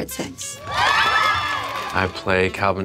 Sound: cheering

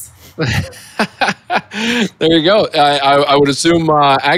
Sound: laughs

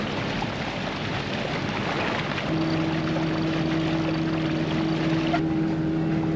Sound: engine sounds

